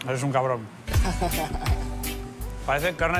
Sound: laughs

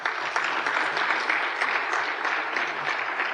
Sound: applause

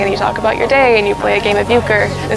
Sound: crowd chatter

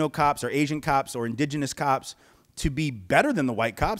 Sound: none

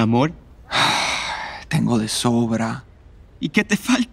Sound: sighing

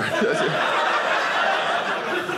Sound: audience laughing

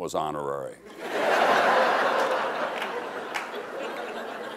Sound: crowd laughing

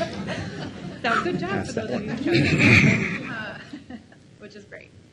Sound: laughs

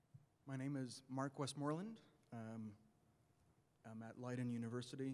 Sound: voiceover

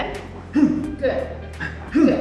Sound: Tony grunts

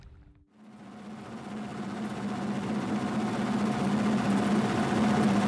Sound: boat engine whirring

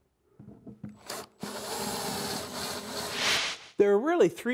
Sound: drill buzzing

